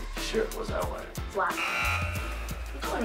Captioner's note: buzzer